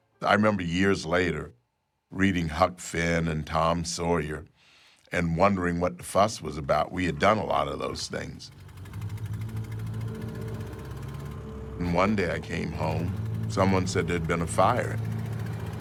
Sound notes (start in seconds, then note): 8.8 engine droning